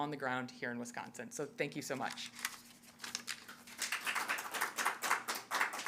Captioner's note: audience applauding